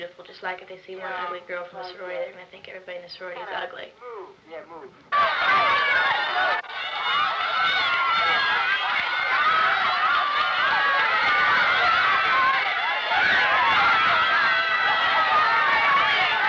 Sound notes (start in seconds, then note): 5.1 crowds cheering